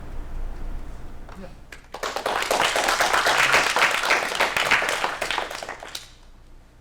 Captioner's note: applause